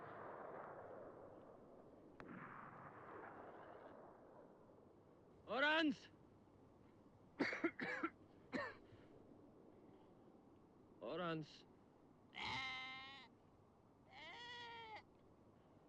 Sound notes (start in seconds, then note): 7.4 coughs